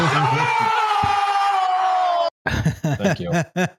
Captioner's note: chuckles; crowd cheers; laughs